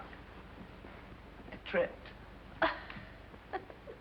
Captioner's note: laughter